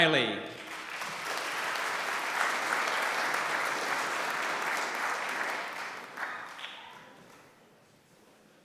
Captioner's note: applause